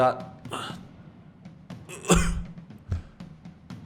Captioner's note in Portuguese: tosse